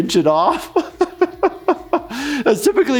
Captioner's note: laughs